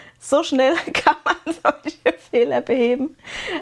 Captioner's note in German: gelächter